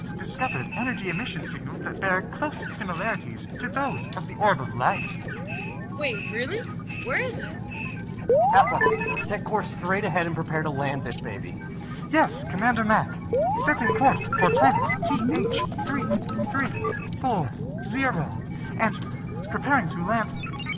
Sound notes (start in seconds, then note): 13.2 beeping